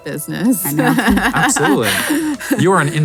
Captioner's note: laughs